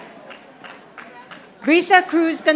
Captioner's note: audience applauding